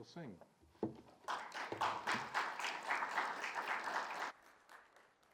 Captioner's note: audience applauds